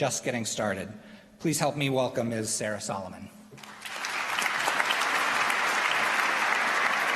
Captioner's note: applause